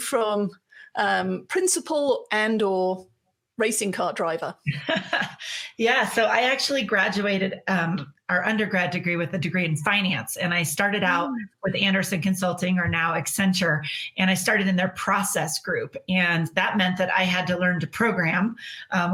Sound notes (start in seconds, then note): 4.6 laughing